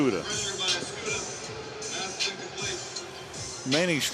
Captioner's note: pa announcement